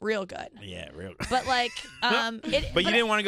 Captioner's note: laughing